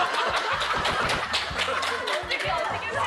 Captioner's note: laughing out loud